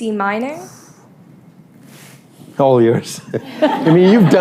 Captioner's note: laughter